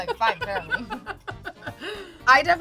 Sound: laughter

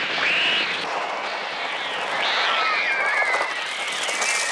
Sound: screaming

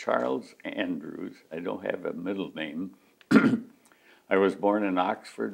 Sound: clears throat

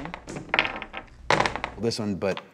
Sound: dice rolls

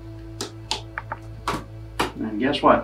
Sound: latches clicking

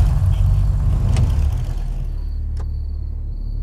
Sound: engine shuts off

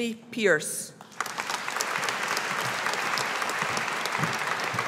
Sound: audience applauding

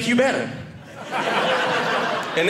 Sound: audience laughing

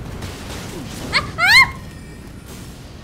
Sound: nervous, high-pitched laugh

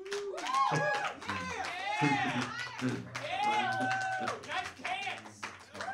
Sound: audience cheering and applauding

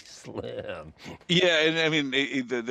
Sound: laughs

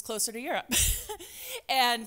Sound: laughs

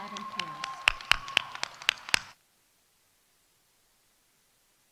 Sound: audience applauding

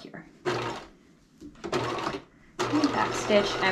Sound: sewing machine clunking

